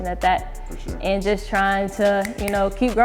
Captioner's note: clicks fingers